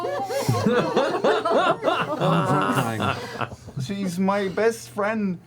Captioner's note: laughter